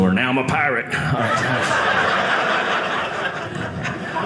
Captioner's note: audience laughing